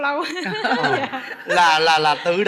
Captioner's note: laughing